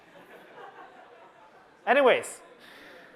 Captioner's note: laughter